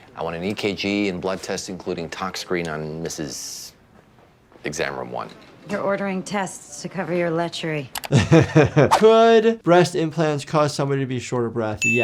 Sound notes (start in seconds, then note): 8.0 giggles